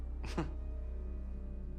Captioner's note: chuckles